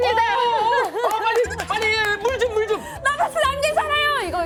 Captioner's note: laughs